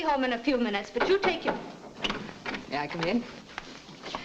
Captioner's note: knocking at door